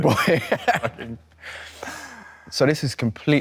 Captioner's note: Leo and Nicholas chuckle